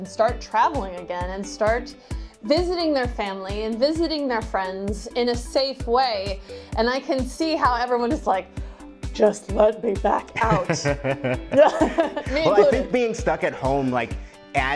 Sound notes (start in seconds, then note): 10.3 laughs